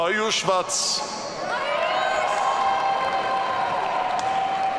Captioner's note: audience cheering